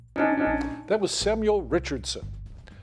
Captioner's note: bell dings